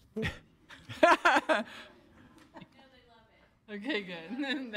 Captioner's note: audience laughs